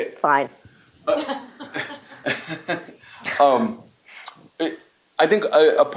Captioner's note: laughter